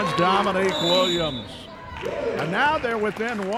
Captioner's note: referee whistling